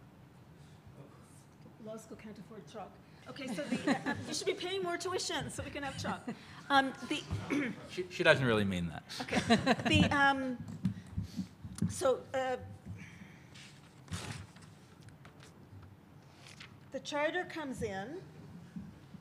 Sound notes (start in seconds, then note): 3.5 audience laughs